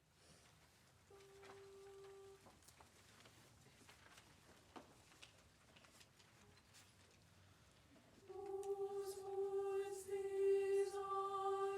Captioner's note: applause